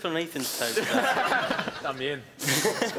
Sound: laughing

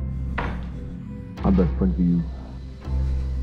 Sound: muffled, deep voice

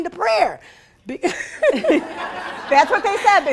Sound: laughing

